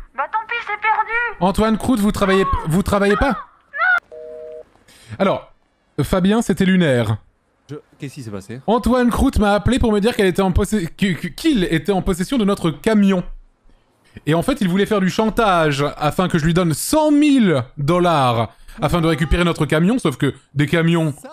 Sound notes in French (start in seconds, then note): 3.0 crie; 4.1 bip de fin d'appel